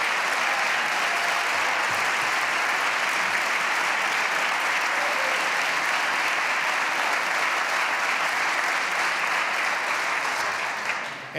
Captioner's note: applause